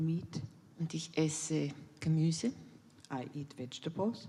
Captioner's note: in German